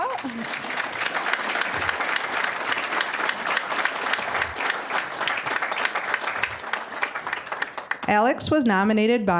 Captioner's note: applause